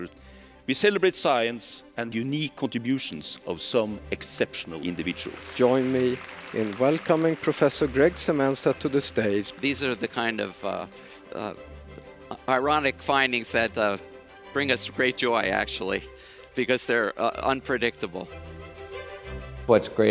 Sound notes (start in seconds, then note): 8.7 applause